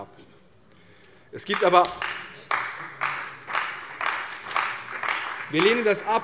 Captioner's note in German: Beifall bei der CDU und BÜNDNIS 90/DIE GRÜNEN